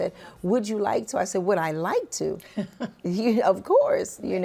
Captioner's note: laughs